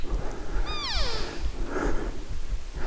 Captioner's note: caller cow calling